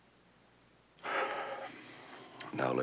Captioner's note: sighing